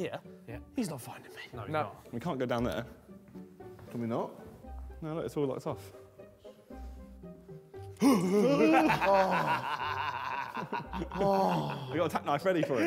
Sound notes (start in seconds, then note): 7.9 Tobi yells and laughs